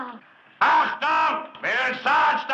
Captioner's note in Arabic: الصوت المنطوق باللغة الألمانية